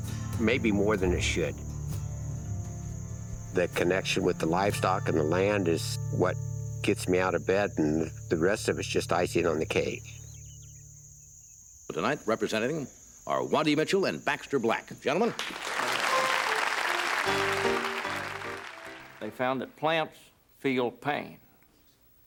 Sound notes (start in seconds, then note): 10.5 birds chirping; 15.3 applause